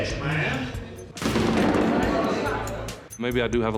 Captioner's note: chair banging